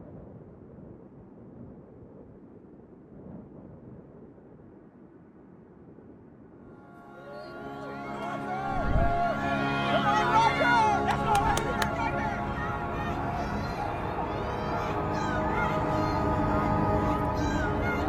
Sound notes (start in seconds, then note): 8.0 crowd cheering; 13.5 emotional music